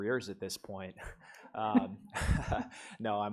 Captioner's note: laugh